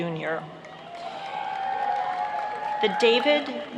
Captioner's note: applauding